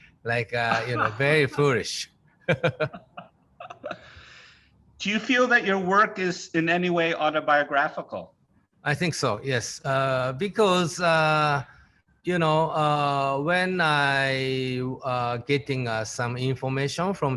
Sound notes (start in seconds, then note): 2.4 both chuckling